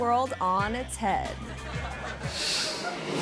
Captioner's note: audience laughing; graphics whooshing